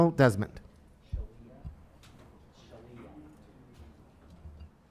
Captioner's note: faintly speaking